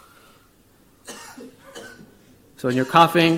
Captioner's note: coughing